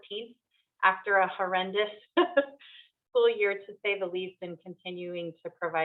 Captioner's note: chuckles